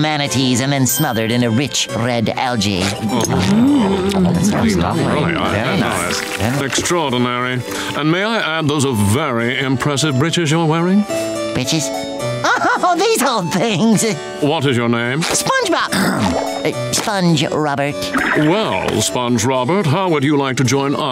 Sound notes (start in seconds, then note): 12.4 laughing; 15.9 grunting